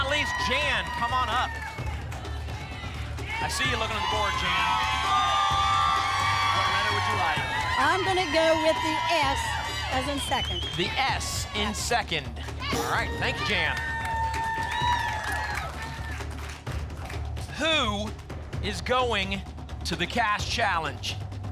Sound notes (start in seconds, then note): 5.1 cheering; 12.7 ping; 14.8 applause and cheering